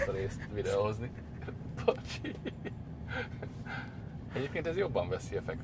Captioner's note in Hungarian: Nevetés